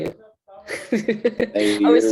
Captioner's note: laughter